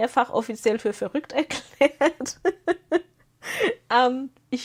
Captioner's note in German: gelächter